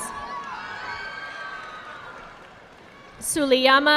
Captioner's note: audience clapping